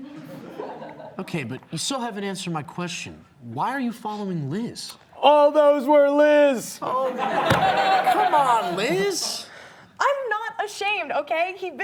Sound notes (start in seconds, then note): 0.1 audience laughing; 7.0 audience laughing